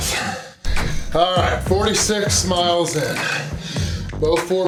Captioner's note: grunts